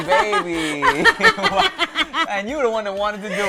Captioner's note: laughter